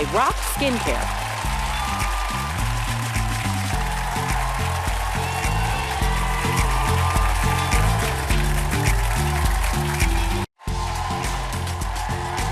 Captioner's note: applause